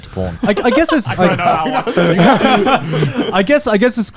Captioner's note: laughing